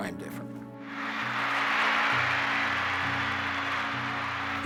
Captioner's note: applause